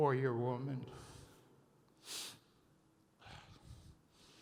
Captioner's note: sniffling